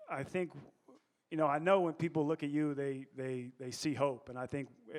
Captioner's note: none